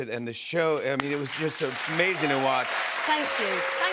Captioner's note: cheers and applause